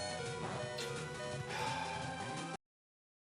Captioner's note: sighs